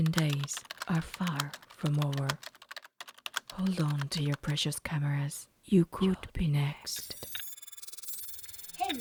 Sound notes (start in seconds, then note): 0.0 keyboard Typing Sounds; 7.0 computer Glitch Sounds